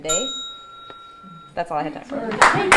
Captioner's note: bell dinging